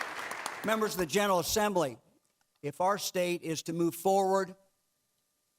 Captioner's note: clapping